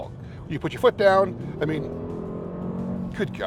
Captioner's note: revving